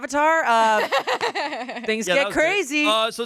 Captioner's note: laughs